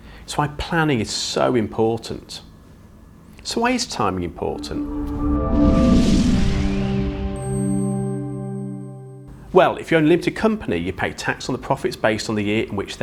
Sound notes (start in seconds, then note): 4.3 gentle music; 4.4 graphics whooshing